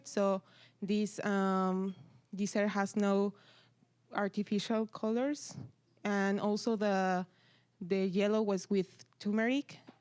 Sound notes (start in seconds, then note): none